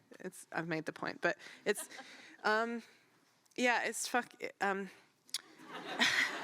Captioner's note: audience laughter